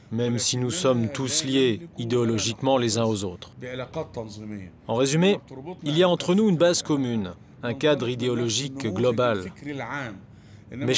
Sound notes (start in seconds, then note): none